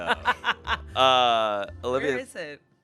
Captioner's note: laughs